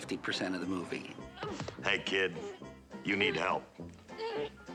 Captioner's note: grunting